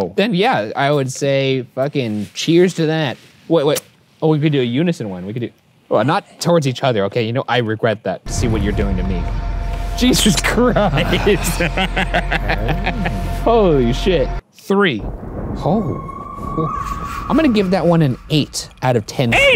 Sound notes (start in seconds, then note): 8.2 frightening music; 10.8 laughs